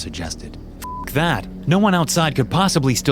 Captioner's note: beep